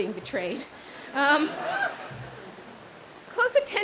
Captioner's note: audience laughs